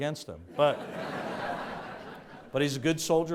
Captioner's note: audience laughs